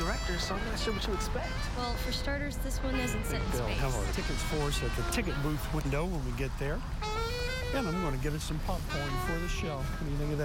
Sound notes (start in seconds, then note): 0.0 saxaphone Music; 2.1 people Talking